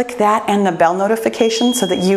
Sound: timer beeps

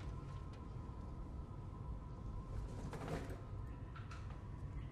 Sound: voices whispering

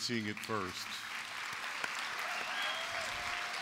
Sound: applause

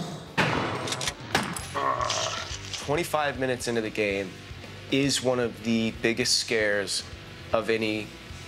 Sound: growling; gunshots

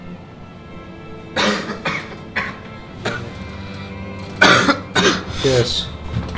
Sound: coughs

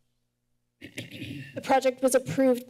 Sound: clears throat

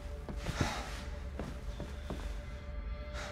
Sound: sigh

